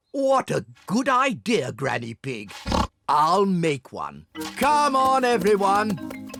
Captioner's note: oinks